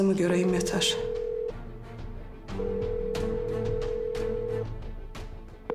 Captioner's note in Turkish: Telefon çalıyor